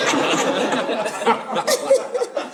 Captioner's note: audience laughing